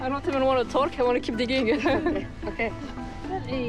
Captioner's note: laughs